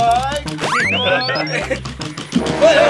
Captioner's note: laughs